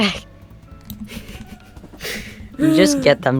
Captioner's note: giggles and sighs